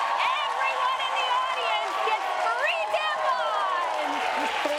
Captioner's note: applause